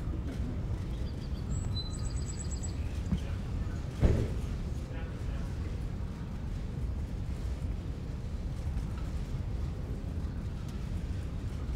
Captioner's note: laughter and applause